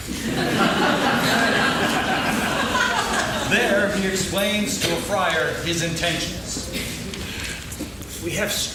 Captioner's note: laughing